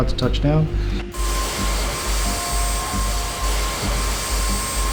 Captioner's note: engine roaring